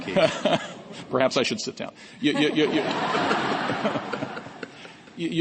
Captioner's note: laughter